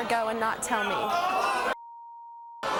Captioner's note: audience yelling; beeps